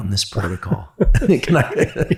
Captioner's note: Andrew chuckling; chuckles